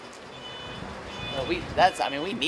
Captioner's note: beeping